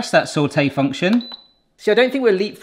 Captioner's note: button beeps